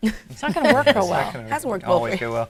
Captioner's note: laughing